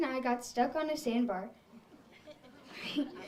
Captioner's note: audience laughs